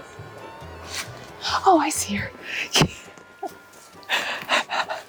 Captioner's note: chuckles